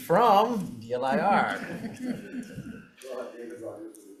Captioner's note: attendees chuckling